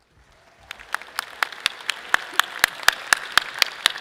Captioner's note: audience clapping